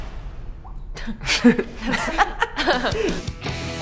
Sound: snickering

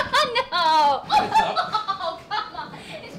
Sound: emma laughing

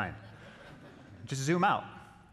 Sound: audience chuckling

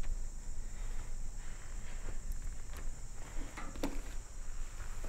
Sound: insects chirping

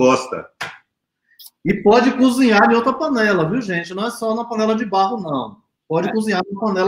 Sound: speaks portuguese

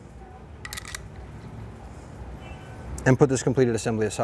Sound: metal rattles softly

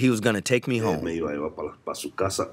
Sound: through translator

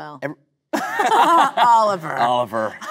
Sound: both laughing

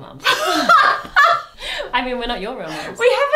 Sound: both laugh

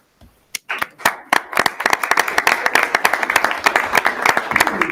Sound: audience applauding

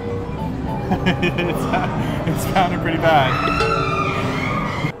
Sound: nervous laugh

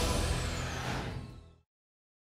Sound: whoosh

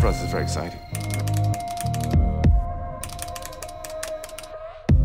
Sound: typing keyboard

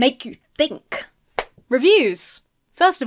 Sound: claps hands

